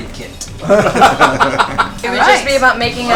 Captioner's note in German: Gelächter